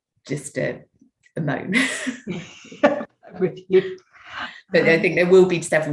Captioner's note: chuckles